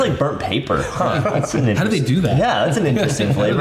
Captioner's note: all laughing